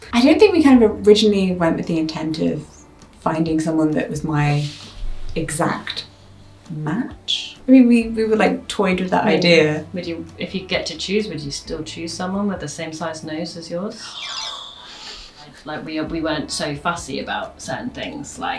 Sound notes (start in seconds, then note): 14.0 jaunty xylophone music; 14.6 gasps